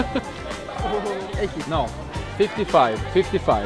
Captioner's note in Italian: Inglese